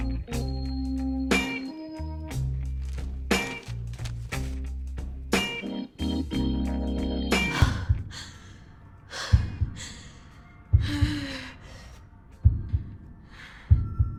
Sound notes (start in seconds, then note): 7.5 heavy breathing; 10.8 pulsating drum beat